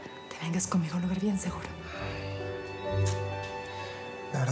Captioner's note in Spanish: chasquido bucal